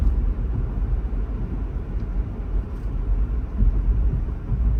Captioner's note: car engine humming